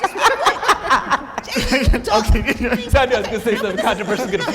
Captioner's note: laughing